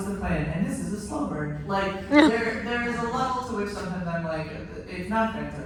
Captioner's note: laughter